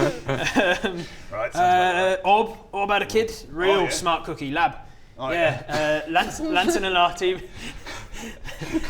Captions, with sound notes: um... right, sounds about right ORB, ORB had a kid real smart cookie LAB oh yeah? Lancelen Arte...*giggles*